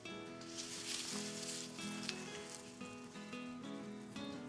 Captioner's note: tree rustling